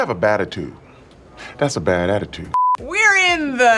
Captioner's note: high pitched beep